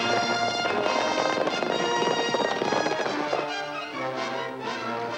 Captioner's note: suspenseful music; horses galloping